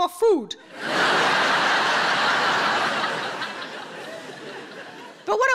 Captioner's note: audience laughing